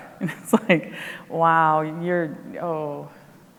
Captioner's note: laughs